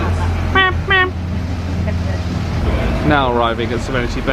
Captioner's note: mimics horn honking